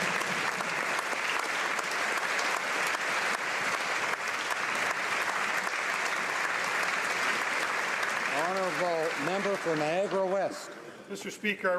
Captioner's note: applause